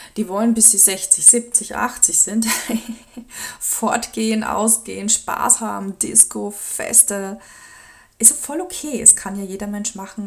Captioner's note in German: gelächter